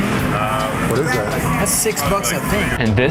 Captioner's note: male Voice